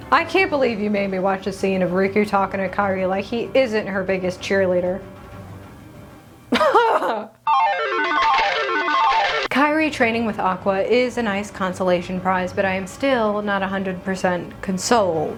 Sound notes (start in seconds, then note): 6.5 disgruntled Laugh of Disbelief; 7.5 slot Machine Jackpot Noises